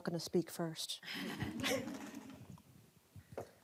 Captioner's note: laughter